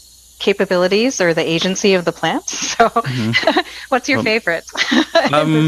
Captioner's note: laughs